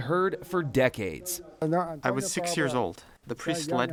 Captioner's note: through translator